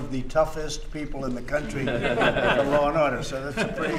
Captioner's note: laughter